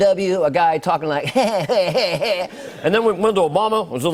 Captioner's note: Imitating Barack Obama